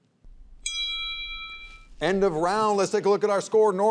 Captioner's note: bell dings